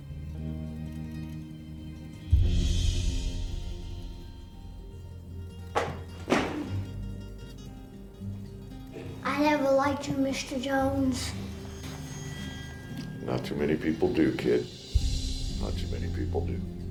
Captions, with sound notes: (book thudding) - I never liked you, Mr. Jones. - Not too many people do, kid, not too many people do.